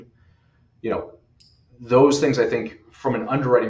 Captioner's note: pen snapping